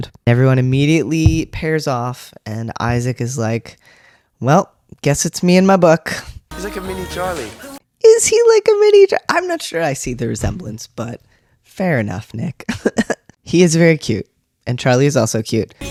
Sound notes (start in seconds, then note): 12.9 laugh